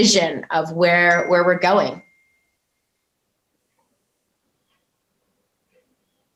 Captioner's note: notification bell dings